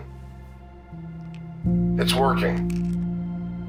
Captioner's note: pills rattling